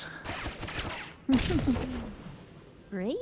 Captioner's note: giggles